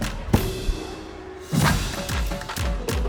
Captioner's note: gong clangs; upbeat music; drummers tapping